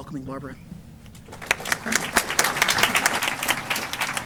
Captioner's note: applause